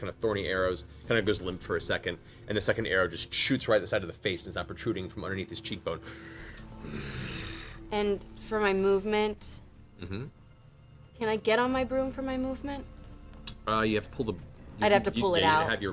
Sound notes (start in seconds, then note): 6.0 angry breathing